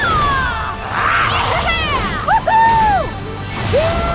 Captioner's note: cheering